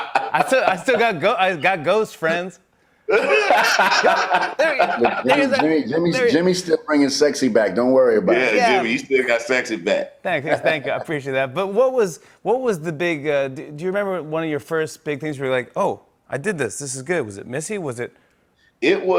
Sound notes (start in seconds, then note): 3.1 laughter